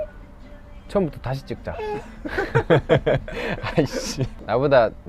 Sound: laughing

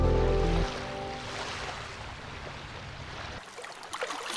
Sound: water sloshes

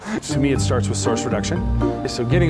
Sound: laughing

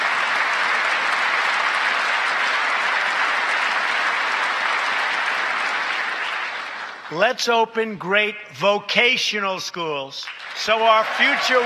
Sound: applause

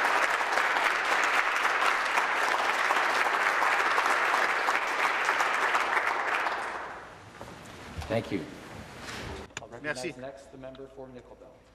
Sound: applause

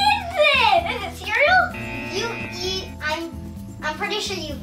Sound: buzzer

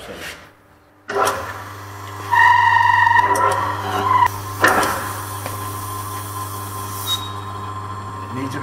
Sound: pump starting noises

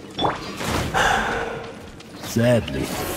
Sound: sigh

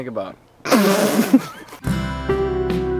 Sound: bursts into laughter

